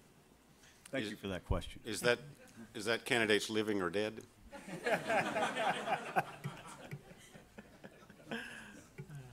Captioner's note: laughter